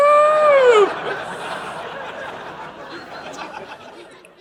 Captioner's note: audience laughing